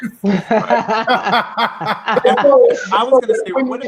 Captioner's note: laughing loudly; laughs